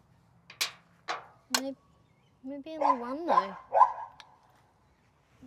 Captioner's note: bark, bark bark